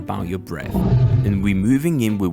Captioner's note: beast roars